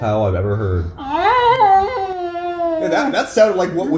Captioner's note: high-pitched wolf howl